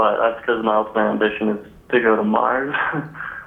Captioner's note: laughs